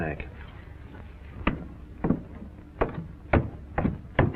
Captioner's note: thumping